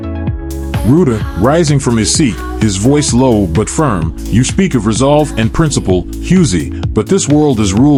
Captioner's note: rising from his seat, his voice low but firm